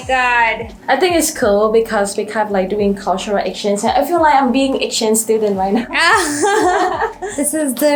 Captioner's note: laughing